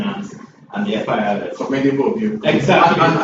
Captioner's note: laughs